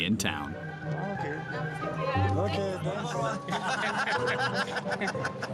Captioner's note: indistinct chatters